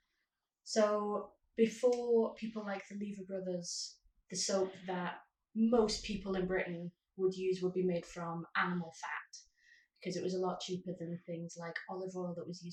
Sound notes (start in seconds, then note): none